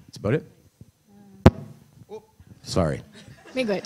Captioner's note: mic bangs